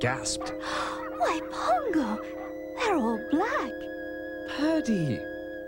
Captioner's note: gasps